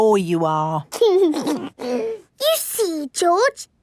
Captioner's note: giggles